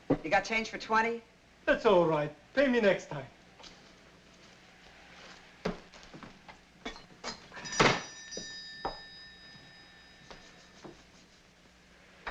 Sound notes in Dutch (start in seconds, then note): 7.5 bel rinkelt